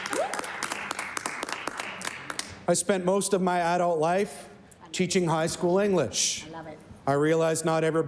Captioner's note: some Applause